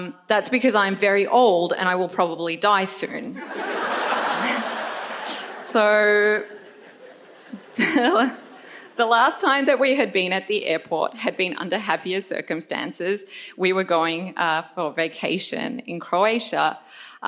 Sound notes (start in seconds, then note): 3.4 audience laughs; 6.6 chuckles